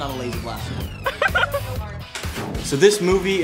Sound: laughing

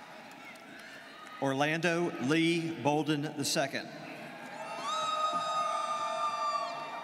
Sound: students cheering

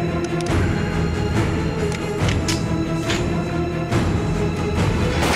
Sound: gun cocking; gun blasting

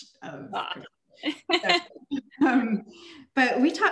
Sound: laughing

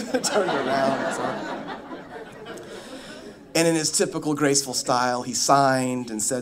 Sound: laughter

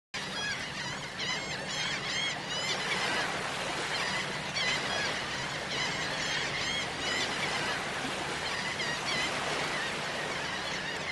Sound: seagulls Cawing

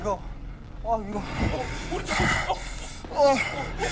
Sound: starting to breathe heavy

